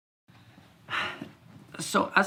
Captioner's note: huffs